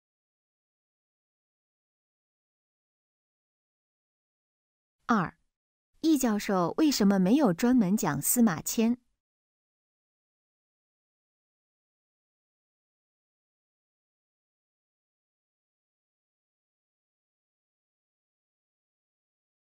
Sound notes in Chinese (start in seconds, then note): 0.1 空白_音频